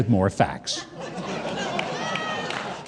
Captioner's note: audience laughs